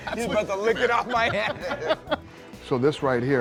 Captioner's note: laughing